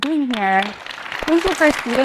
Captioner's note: participants clap